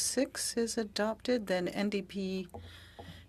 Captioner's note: speaking french